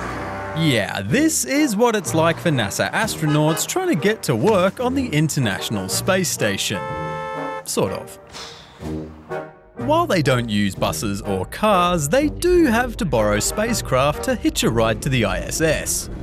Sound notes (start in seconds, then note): 5.5 car horn beeps; 8.2 exhales sharply